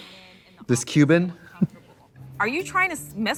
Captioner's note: sniffs